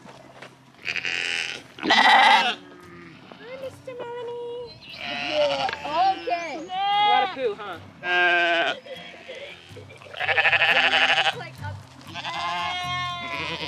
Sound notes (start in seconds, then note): 0.8 sheep baaing; 8.3 sheep baaing